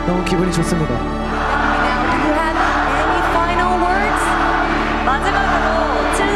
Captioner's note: crowd